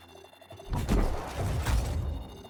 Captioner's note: gunshots